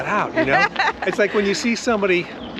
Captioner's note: Nicole laughs